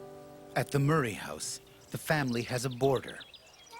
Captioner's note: voiceover